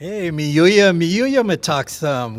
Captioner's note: speaking native language